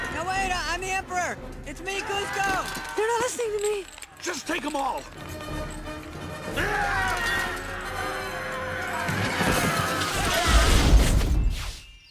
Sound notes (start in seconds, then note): 6.5 screaming; 8.0 explosions; 8.7 glass breaking